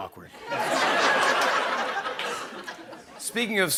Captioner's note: laughter